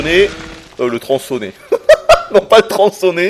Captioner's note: giggles